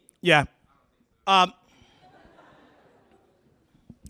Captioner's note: laughter